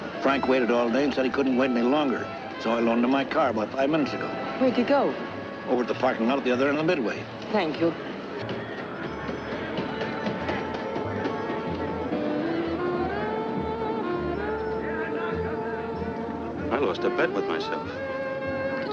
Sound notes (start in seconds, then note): 8.6 cheerful music; 8.6 people chattering; 12.2 gentle romantic music